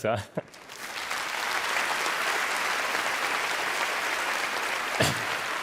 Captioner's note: audience applauding